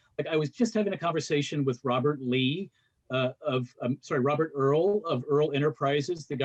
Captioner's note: none